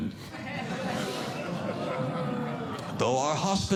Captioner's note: audience Laughing